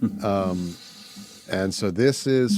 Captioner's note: laughing